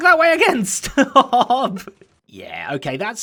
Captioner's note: laughing